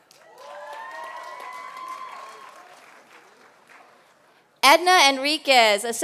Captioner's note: applause